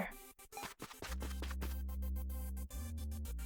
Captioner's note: running sounds